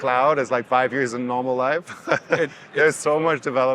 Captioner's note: laughs